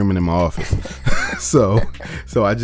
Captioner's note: both laugh